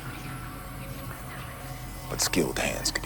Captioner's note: eerie whispering